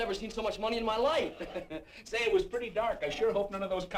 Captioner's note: laughs